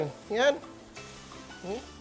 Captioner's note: sizzles